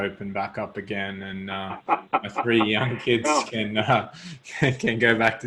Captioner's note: laughs